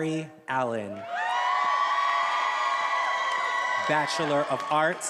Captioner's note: attendees applauding and cheering